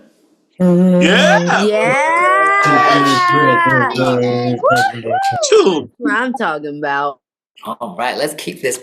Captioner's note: cheering